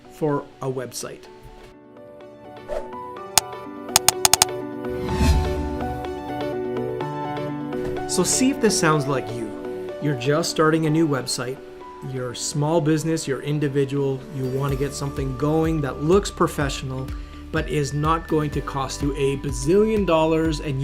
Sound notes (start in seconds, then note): 2.1 keyboard clicking; 2.1 upbeat music